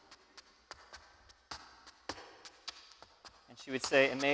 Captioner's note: shoes clacking